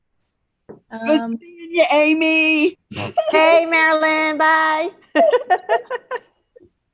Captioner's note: laughs